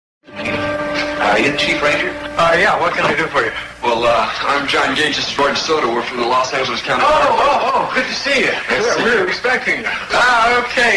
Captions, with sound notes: (Music chord) Roy DeSoto- Are you the chief ranger? Jack Moore- Uh, yeah. What can I do for you? Johnny Gage- Well, ah. I'm Johnny Gage. This is Roy DeSoto. We're from the Los Angeles County Fire Department. Jack Moore- Oh, oh. oh! Good to see ya! Johnny Gage- (chuckling) Jack Moore- We were expecting you.